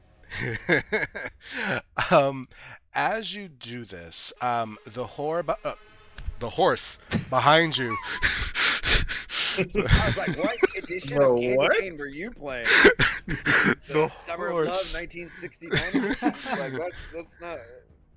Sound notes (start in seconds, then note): 7.1 group Laughter; 7.2 Malak Laughs; 12.5 group Laughter continues